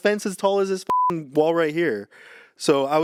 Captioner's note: beep